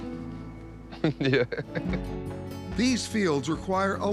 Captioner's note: chuckles